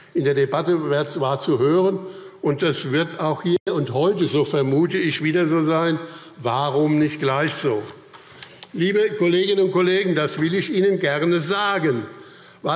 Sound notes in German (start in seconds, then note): none